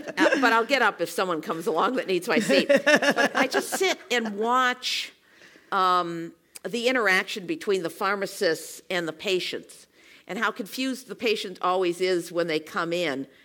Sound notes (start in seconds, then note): 2.3 laugh